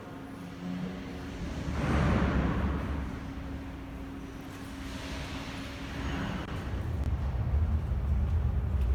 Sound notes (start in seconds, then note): 0.3 closing doors; 4.8 train leaves to the next station